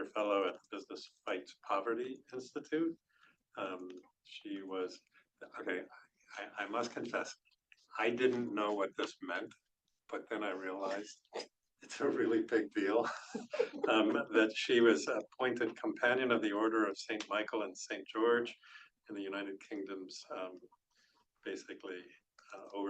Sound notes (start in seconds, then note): 11.9 laughs